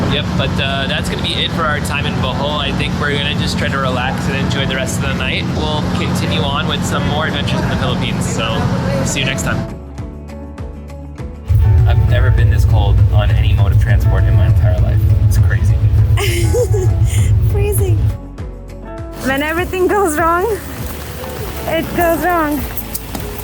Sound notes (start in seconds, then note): 16.2 laughter